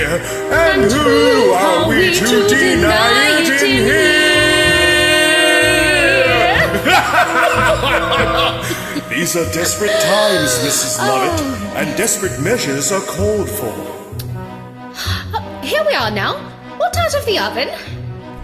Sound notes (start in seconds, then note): 5.7 evil laughter